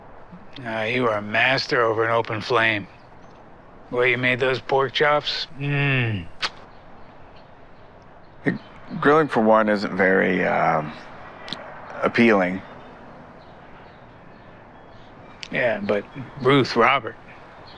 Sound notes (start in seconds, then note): 6.2 Hardy smacks his lips